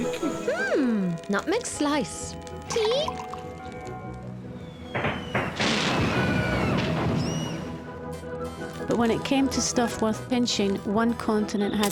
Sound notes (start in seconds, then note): 4.7 people screaming; 4.8 explosions booming